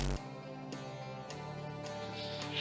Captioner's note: glitch